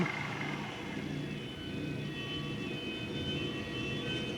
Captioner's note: siren wails